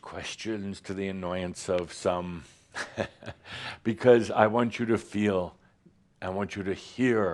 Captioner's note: Adamus chuckles